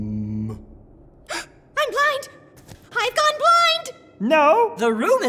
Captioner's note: gasp